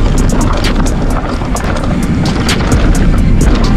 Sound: trap music plays; bike clatters

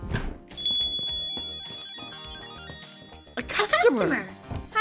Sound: bell dings

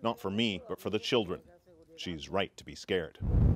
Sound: speaking spanish

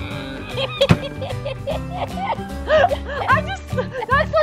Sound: laughing

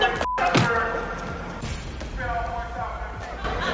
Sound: fist thuds

